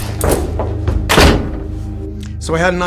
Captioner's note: door closes